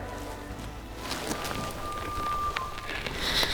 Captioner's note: elk bugling